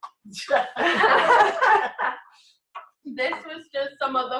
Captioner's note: laughter